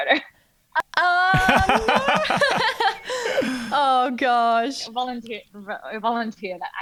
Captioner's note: laughing